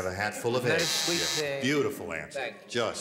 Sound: buzzer

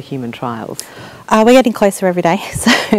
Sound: chuckles

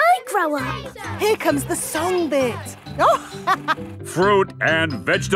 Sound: chuckling

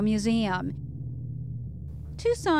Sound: airplane roaring

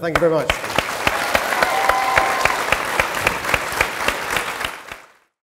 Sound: cheering & Applause

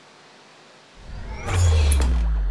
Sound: whoosh

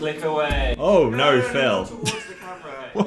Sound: laughs

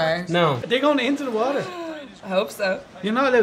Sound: gasp

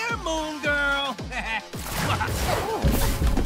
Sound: laughs

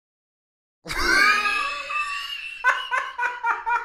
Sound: wheezes; cackles

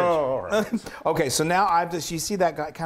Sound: laugh

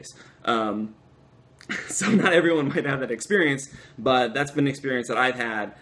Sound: laughter

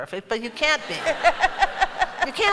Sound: laughter

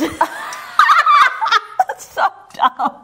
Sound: laughs

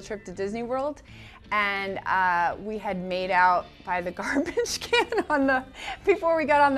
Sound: laughs

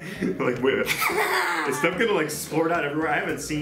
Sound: laughs

